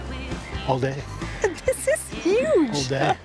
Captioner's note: laughs